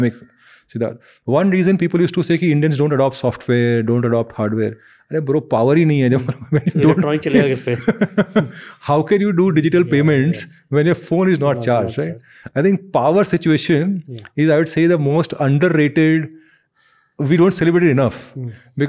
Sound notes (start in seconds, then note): 6.1 chuckles; 6.9 speaks in Hindi